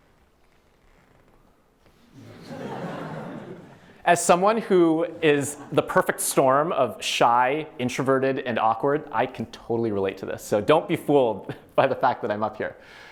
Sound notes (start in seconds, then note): 2.1 laughter